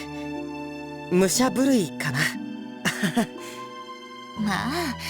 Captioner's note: awkward laugh